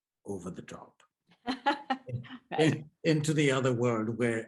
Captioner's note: laughs